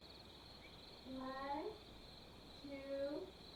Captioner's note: crickets chirping